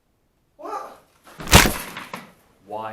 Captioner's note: punch